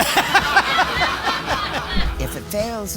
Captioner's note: laughing; audience laughing